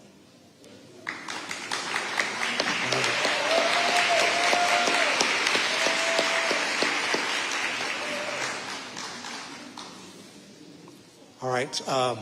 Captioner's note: audience applauding